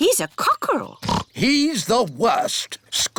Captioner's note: oinks